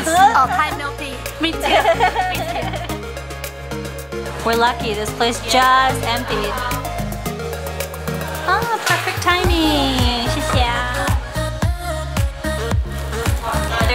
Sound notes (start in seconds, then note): 0.6 foreign language; 2.8 upbeat music playing; 10.4 foreign language; 11.4 upbeat music playing